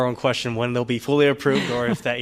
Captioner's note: laughter